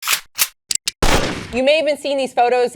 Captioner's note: gun noise